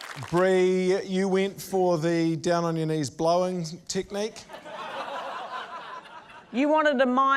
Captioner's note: laughter